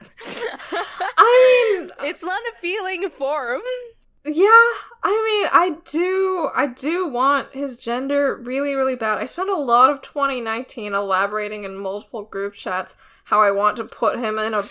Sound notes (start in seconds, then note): 2.6 both laugh